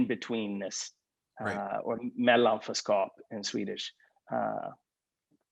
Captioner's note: speaks in Swedish